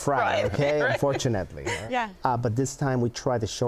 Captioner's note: laughing